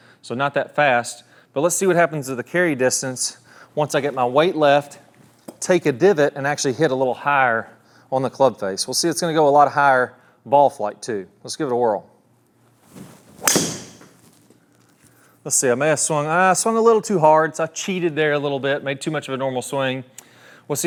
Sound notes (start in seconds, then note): 12.9 club whooshes as ball hits wall